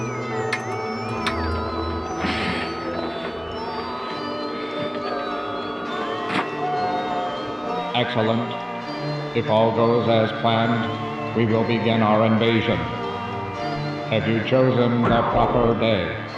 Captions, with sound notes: - [Robotic Voice] Excellent, if all goes as planned, we will begin our invasion. Have you chosen the proper days?